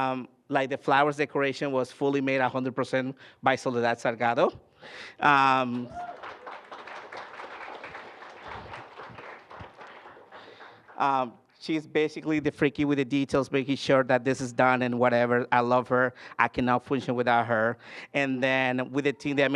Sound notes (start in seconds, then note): 5.6 applause